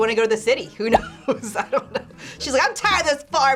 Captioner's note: laughs